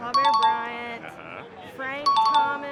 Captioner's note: chime dings; chime dings